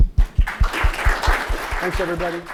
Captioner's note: audience applauding